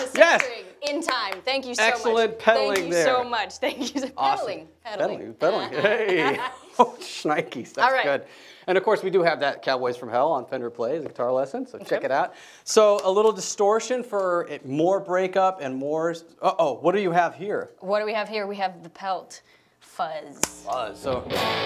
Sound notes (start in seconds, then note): 5.6 laughs